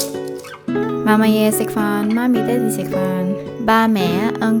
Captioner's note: Cantonese